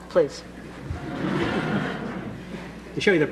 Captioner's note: laughter